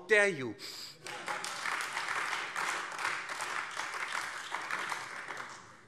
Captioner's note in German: Beifall AfD